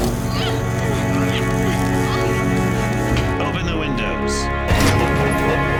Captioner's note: grunting